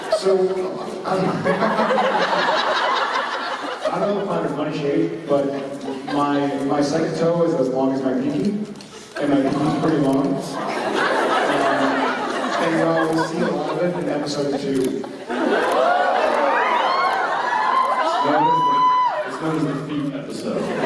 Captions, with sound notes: So, I-- [Jared and audience laughs] I don't know if I find them funny shaped, but my second toe is as long as my pinky. And my pinky's pretty long. We'll see a lot of it in episode 2. [audience cheers] It's known as the "Feet Episode".